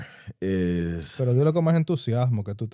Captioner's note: speaking In Foreign Language